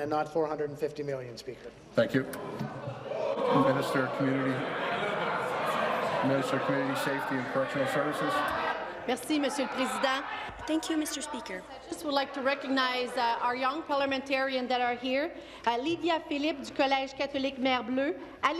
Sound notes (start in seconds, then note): 12.2 speaking in French